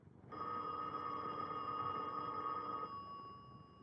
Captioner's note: telephone ringing